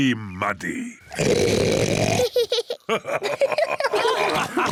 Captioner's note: oinks loudly; both laugh